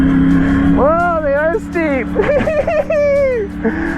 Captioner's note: laughs